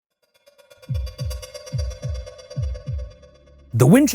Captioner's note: heart thumping; suspenseful music